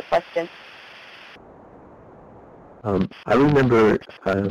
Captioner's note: lots of static on the line